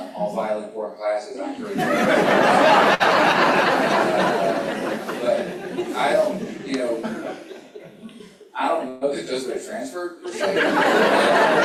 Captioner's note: laughter